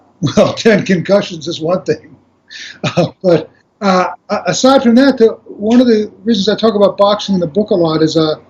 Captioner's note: laughs